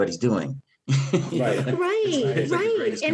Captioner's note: laughs